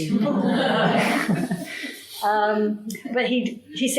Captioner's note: audience laughing